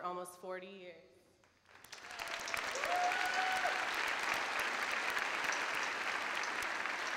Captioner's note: crowd applauds